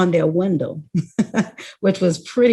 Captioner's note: laughs